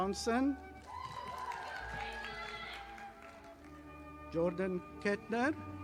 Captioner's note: audience applauding